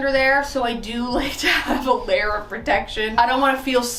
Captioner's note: chuckles